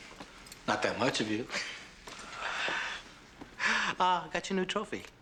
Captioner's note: chuckles